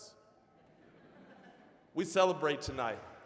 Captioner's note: audience chuckling